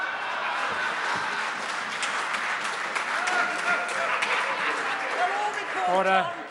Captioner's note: laughter and applause